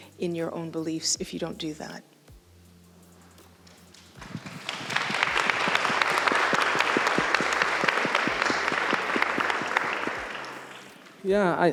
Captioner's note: applause